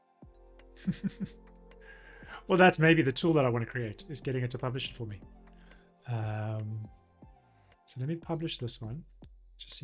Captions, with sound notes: (laughs) Well, that's maybe the tool that I wanna create is getting it to publish it for me. So let me publish this one,